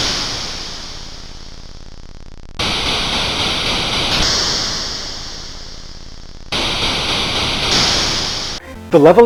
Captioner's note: C64 sound effects of aircraft gun fire